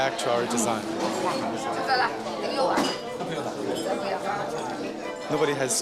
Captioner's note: speaking Chinese